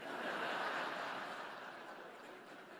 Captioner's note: laughter